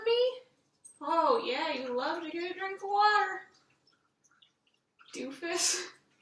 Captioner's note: dog collar jingling; dog noisily drinking